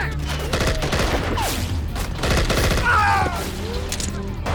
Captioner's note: gunfire rattling; man screams